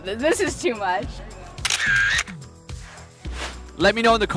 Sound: camera shutter clicking

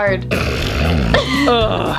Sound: sniffs loudly

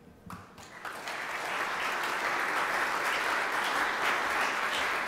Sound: audience applauding

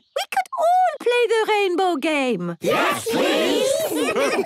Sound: laughter

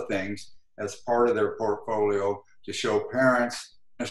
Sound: glitch

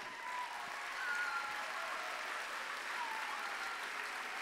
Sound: applause

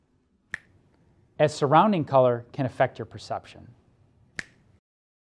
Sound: snapping

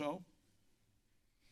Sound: silence

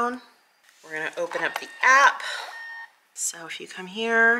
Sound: printer whirring

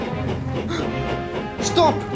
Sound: Ted gasps

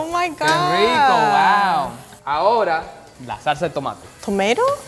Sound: speaking in foreign language

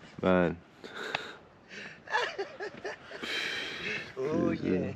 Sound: laughs

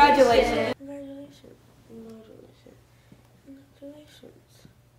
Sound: mumbles congratulations

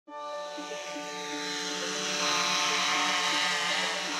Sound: drone whirring; upbeat music

